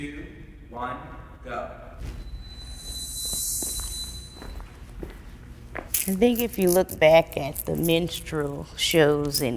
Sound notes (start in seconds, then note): 2.0 feet thumping